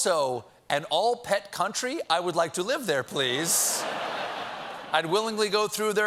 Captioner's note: laughter